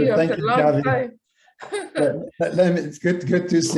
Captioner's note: laughing